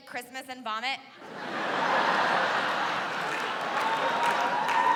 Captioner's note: laughter and cheering